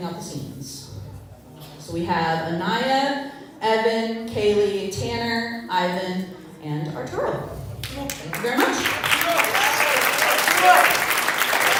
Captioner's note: applause